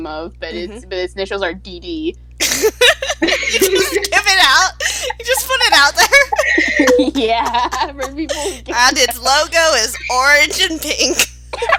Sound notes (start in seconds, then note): 2.4 laughter of realization; 6.6 through laughter